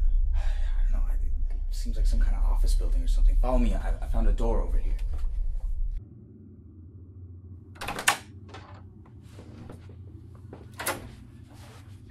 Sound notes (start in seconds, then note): 7.7 door opening